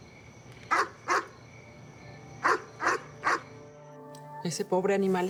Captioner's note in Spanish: Ladridos